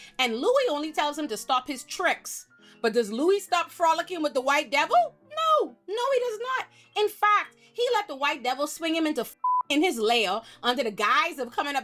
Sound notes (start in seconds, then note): 9.4 beep